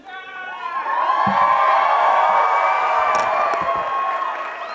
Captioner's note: audience cheers